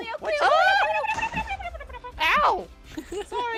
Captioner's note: panicked gibberish; creeper explodes